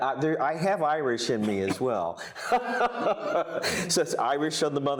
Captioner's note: laughs